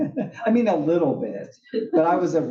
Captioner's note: laugh